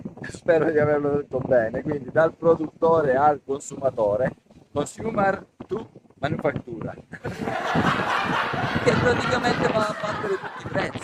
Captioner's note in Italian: risate